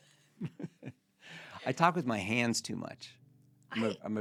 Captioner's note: laughing